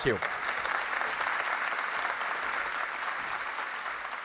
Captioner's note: applause